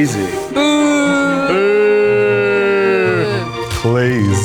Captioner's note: booing